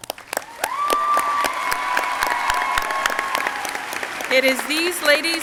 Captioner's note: crowd cheering and applauding